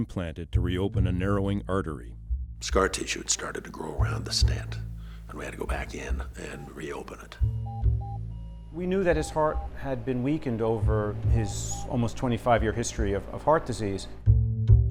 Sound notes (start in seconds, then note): 7.5 heart monitor beeping